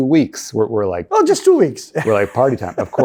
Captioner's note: laughs